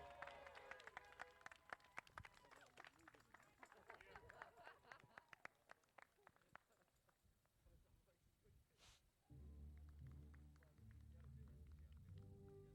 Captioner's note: applause